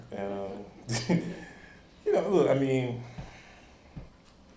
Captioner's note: chuckles